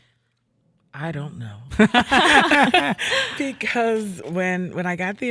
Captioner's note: all laughing